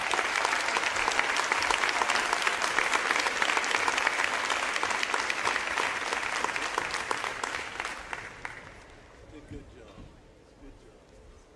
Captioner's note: applause